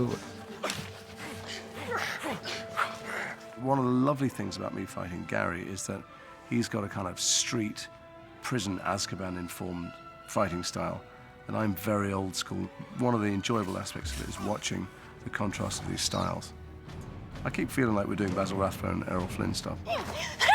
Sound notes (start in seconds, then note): 0.0 all grunting